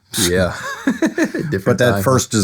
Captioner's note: laughing